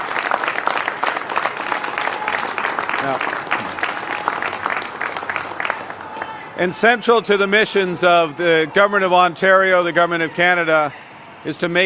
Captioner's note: applause